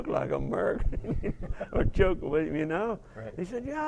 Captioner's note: laugh